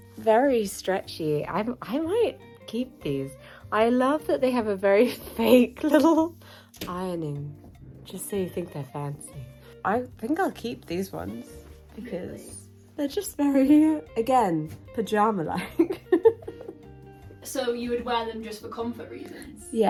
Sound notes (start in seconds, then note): 15.8 laughs